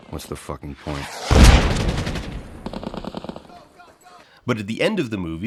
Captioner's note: closer, louder explosion; gunfire